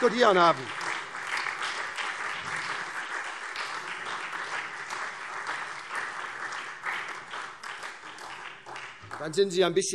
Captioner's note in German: Beifall SPD und DIE LINKE